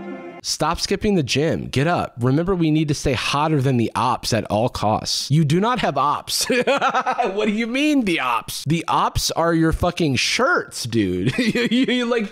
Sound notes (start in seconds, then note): 0.0 motivational music; 6.3 laughs